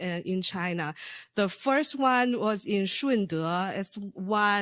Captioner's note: speaking foreign language